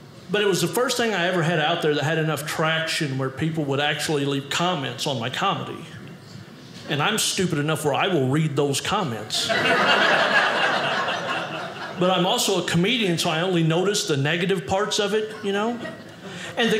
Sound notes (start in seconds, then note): 9.4 audience laughing